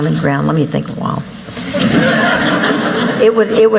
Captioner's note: laughter